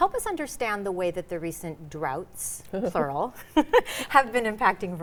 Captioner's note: chuckles